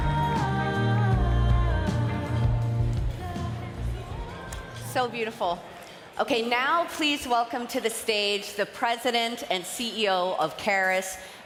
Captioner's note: cheering and applause